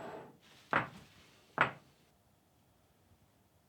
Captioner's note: cups clinking